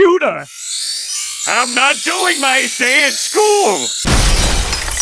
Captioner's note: Plankton Voice; Plankton Voice